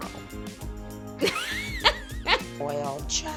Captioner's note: laughs